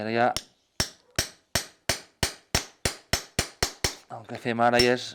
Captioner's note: hammer striking nails